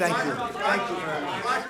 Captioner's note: applause